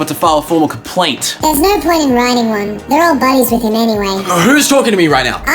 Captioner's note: voice in head